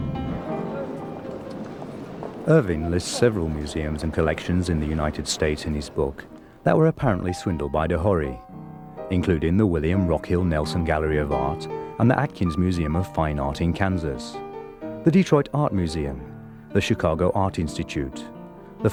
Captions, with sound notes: (footsteps tapping) Irving lists several museums and collections in the United States in his book that were apparently swindled by de Hory, including the William Rockhill Nelson Gallery of Art and the Atkins Museum of Fine Art in Kansas, the Detroit Art Museum, the Chicago Art Institute,